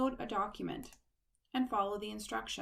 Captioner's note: click